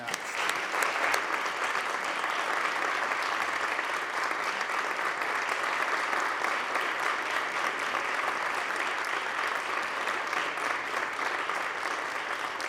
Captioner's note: applause